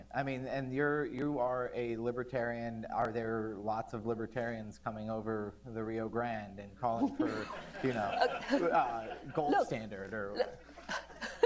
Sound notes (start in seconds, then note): 7.0 laughter